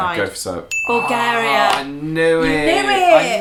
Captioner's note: groaning